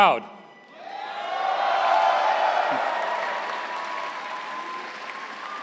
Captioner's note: audience cheering and clapping